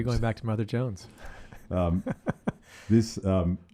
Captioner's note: laughs